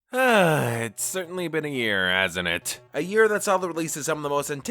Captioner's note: sigh